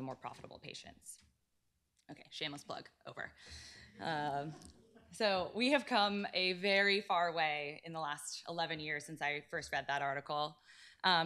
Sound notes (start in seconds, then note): 3.8 laughter